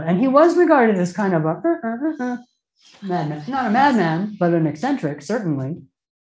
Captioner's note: sound effect